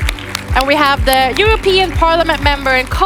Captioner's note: audience applauds